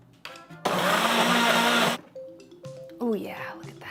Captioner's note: blender whirs